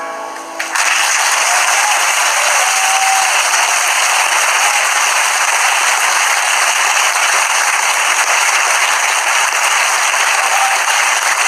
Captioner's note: applause